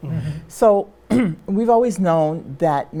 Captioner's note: clears throat